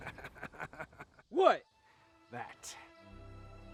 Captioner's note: guy laughing